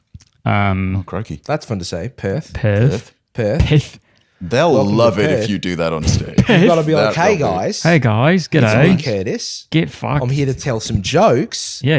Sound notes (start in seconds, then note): 2.2 repeating "Perth" in Australian accents; 7.2 imitating Australian accent